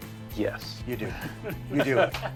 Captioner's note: laughing